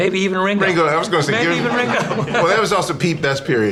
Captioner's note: laughs; audience laughs